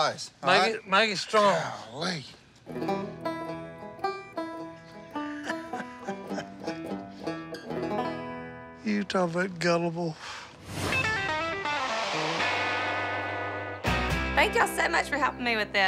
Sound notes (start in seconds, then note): 2.6 lighthearted banjo music; 5.1 laughing; 11.0 peppy folk music